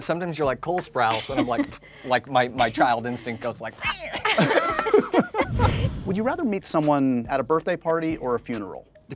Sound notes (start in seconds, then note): 3.8 all laughing; 4.0 screeches